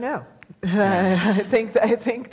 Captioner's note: laughs